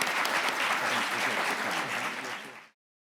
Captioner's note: people applaud